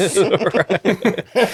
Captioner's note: laughing